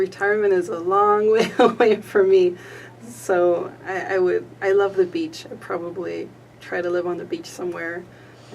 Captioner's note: laughter